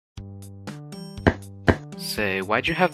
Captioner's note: clop clop